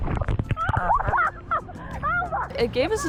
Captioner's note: laughing